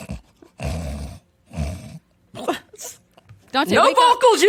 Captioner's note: all laughing